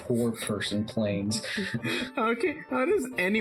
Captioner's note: chuckles